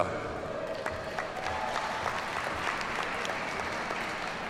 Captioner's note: audience applauds